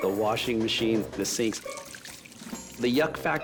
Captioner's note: faucet running